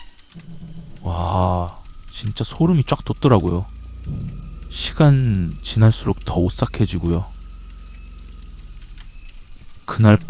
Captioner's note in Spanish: ¡Thud, thud, shhh, shhh! ¡Thud, thud, shhh, shhh!